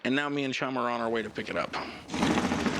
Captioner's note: engine rumbles